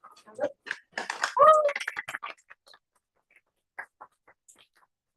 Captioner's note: applause